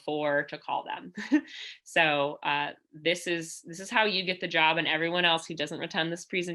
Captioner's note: laughter